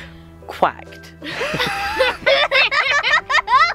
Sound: laughing

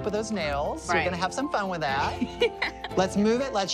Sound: laughs

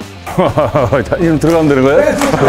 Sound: chuckles

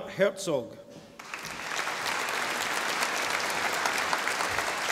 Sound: audience applauding

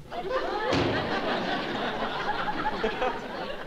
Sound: door slams

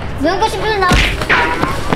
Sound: punch

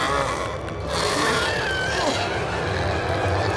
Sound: shrieking

